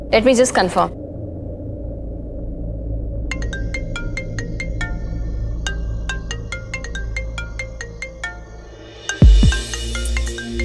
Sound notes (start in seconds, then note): 3.2 Phone ringing